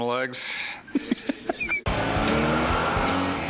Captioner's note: laughs